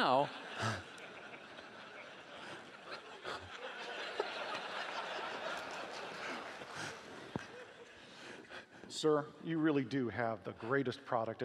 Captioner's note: laughing